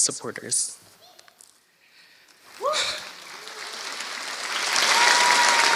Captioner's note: applause